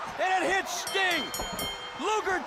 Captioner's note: bell ringing